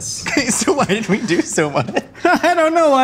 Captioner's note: laughs